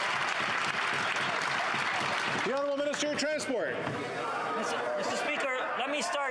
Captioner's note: some Applause